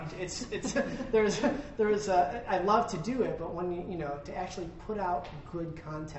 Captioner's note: laughter